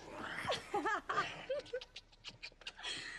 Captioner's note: laughs